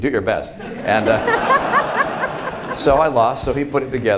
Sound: laughter

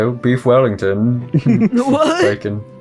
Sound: laugh

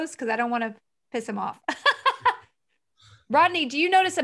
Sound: she laughs

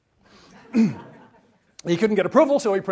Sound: laughter

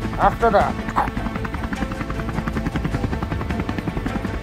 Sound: helicopter blades whirling

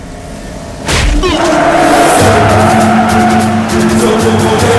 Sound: tires screeching

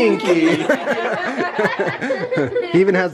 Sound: all laughing

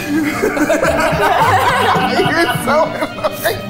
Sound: all laughing

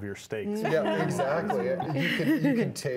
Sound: group laughing

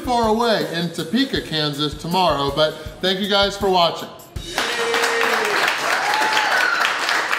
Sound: crowd cheering

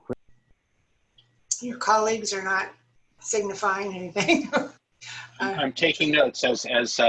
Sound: laughter

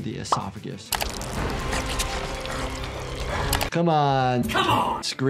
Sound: intense music; squelching

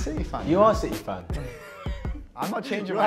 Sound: chuckle

